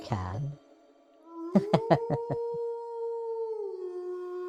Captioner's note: wolf howls